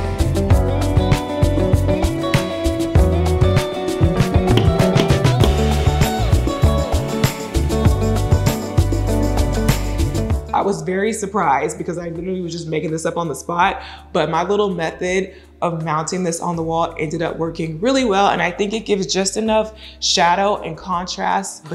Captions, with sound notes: (hammer banging) I was very surprised because I literally was just making this up on the spot, but my little method of mounting this on the wall ended up working really well and I think it gives just enough shadow and contrast